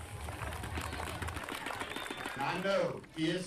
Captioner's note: people applauding